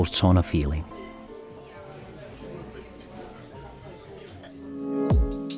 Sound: guests chatter indistinctly; bright music; gentle upbeat music

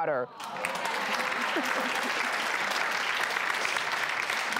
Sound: crowd clapping

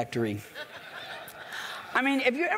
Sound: laughs

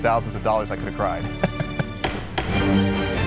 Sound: laughs

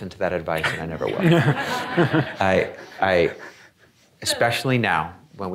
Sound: audience laughing

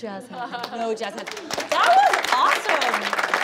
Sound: applauding

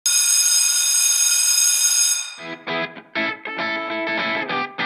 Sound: bell sounds

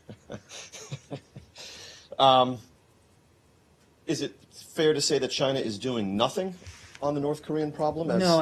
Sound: laughter

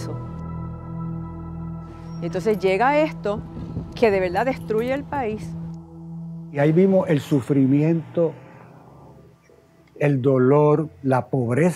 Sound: video audible in Spanish

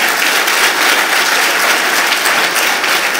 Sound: applause

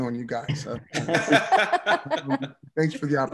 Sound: laughs

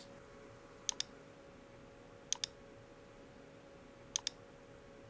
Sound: mouse clicking

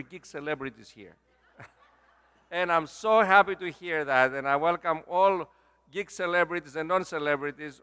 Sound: laugh

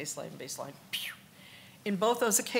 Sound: increase wheeze

